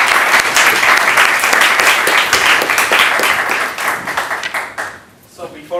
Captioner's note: applause